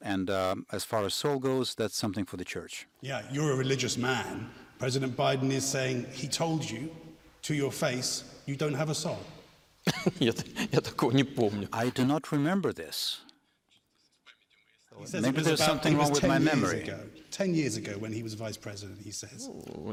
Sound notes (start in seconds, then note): 9.8 laughter